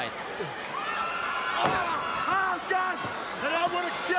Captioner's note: crowd cheering